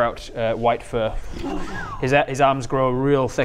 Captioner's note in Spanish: silbido bajo